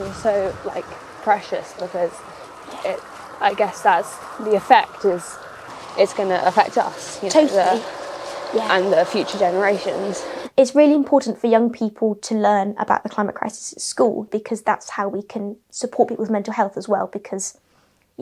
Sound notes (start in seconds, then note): none